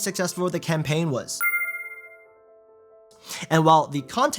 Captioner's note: gentle music; text dings